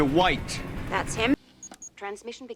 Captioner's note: beeping